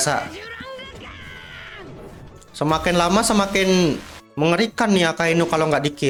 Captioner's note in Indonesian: berteriak